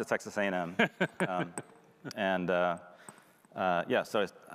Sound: laughing

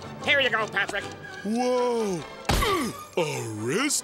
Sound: grunting

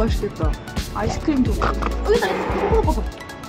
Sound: snorting

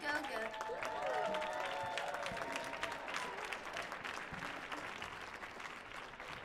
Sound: crowd applauds; crowd cheers

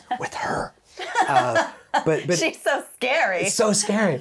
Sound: laughing joyously

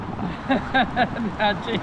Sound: laughing

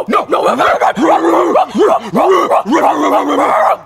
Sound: both barking

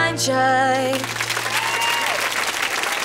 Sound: clapping

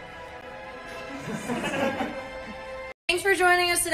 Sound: laughter

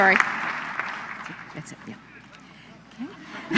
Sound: laughter

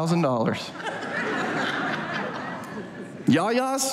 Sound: audience laughs

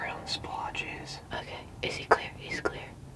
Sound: whispering

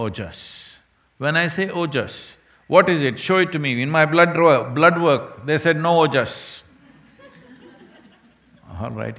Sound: few laugh

